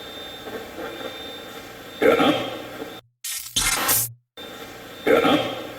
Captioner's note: Steve's Box chatters